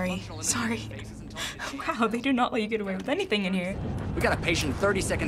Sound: laughing

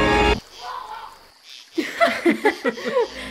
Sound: shocking music; Zack yells; group laughs

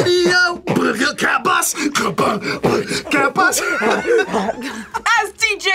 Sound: beat boxing

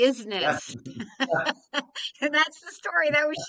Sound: laughing

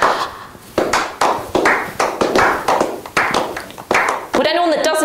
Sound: slow clapping noises

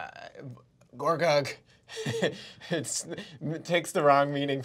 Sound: chuckles

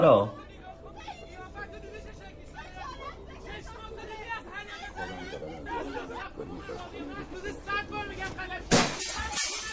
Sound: neighbors arguing; glass breaking from neighbors house

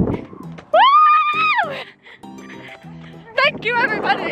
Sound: screaming

